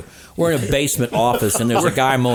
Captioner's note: laughing